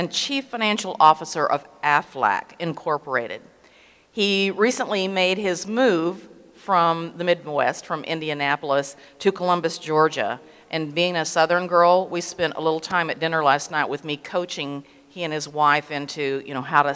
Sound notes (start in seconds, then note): none